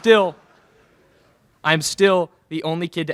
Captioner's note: laughter in crowd